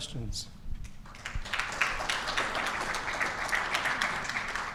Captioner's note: audience clapping